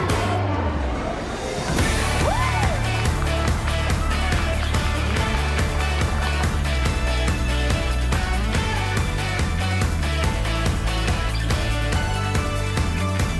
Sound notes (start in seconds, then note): 2.1 cheers